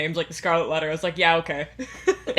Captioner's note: laughs